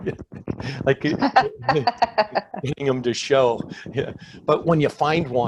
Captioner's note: laughing; speaking faintly